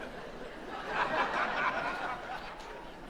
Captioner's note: laughter